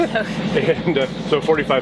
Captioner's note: laughs